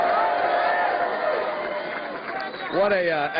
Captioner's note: cheers and applause